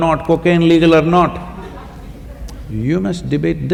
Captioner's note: laughter